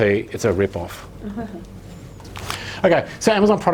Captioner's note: laughing